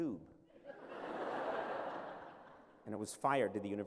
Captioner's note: laughter